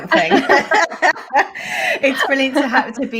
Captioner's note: both laughing